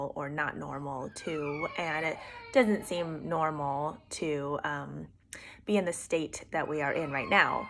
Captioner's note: kid crying in the background